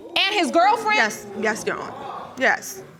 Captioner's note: audience exclaiming